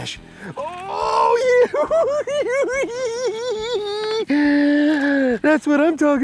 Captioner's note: laughing